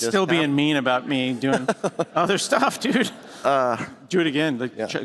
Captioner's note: laughter